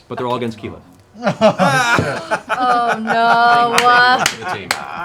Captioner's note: laughter